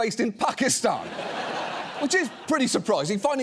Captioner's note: audience laughs